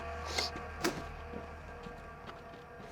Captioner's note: spits